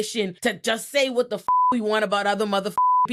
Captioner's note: beep